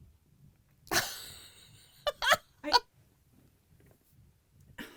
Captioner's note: laughing